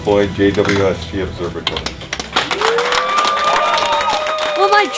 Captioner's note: applause